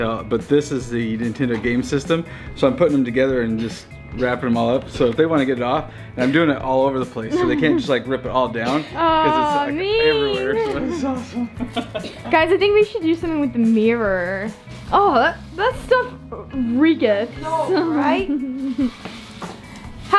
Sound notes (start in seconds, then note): 7.3 chuckles; 10.0 laughs